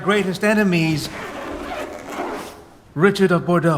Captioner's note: unzipping